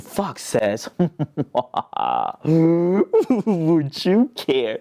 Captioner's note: sinister laughter